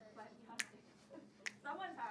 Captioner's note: fingers clicking